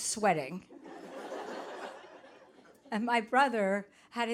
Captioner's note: audience laughing